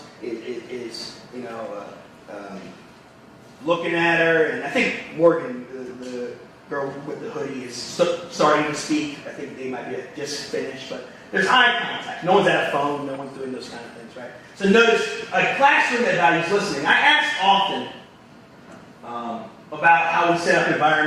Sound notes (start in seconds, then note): none